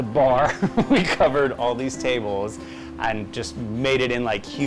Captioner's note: laughs